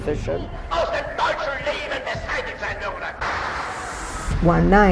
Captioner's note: Hitler speaking in foreign language